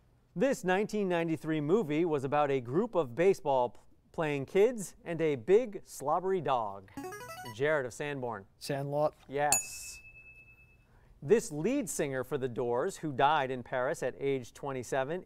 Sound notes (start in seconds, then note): 6.7 player buzzer; 9.5 ding